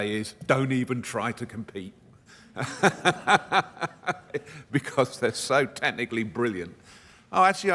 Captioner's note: laughs